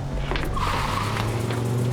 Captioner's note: tires screeching